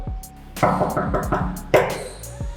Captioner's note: knocks on the door